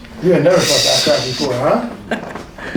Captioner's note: laughing